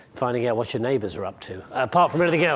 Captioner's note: laughing